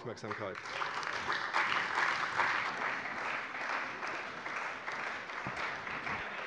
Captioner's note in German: Beifall bei der CDU und dem BÜNDNIS 90/DIE GRÜNEN